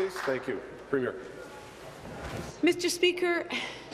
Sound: applause

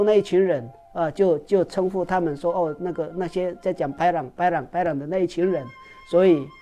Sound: bad people in Hokkien

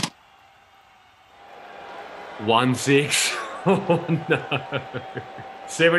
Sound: crowd boos; laughs

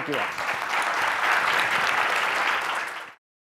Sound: applause

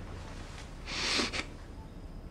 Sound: sniffles

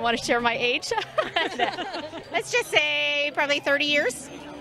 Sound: laughing

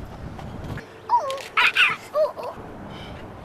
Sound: imitation monkey noises

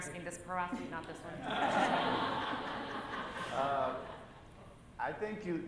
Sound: laughter

